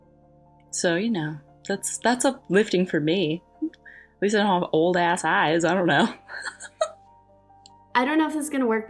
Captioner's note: laughs